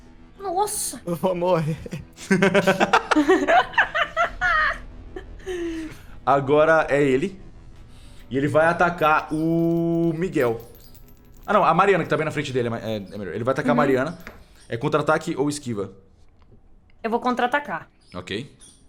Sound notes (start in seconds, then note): 1.4 laughs